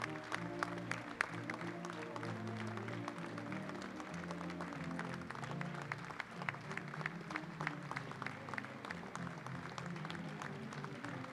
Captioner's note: applause